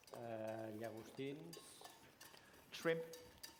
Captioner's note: non-english